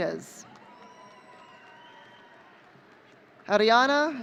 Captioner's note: audience cheering